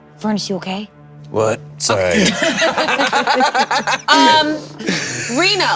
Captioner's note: players laughing